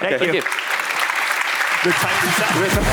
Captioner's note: applause; upbeat music